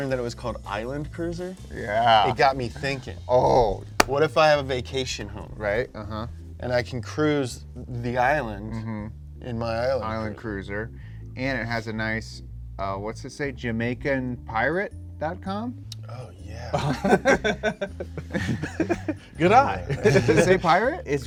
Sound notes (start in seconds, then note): 4.0 clapping; 16.7 all laughing